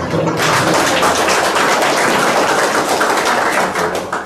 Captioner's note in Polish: oklaski